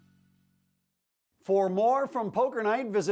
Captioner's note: voiceover